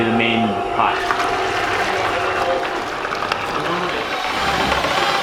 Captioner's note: liquid pouring; drill whirring